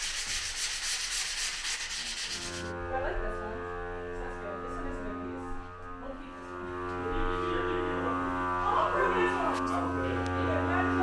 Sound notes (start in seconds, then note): 3.0 machine buzzing; 6.4 machine buzzing drowns out speakers